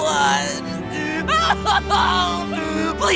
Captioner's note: wailing